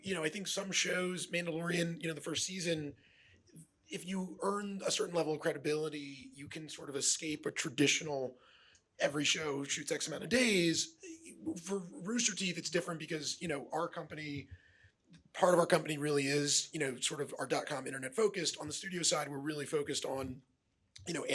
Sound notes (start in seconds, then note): none